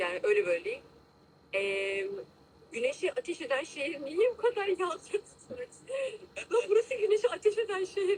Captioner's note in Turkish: kahkaha